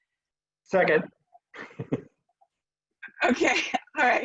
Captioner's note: laughs